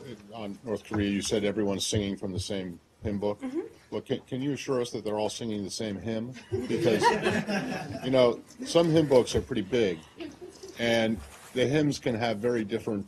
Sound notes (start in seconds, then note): 6.3 laughter